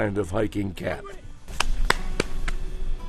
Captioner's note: hands clapping